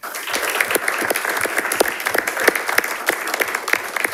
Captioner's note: audience applauding